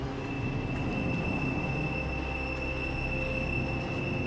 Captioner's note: wind howling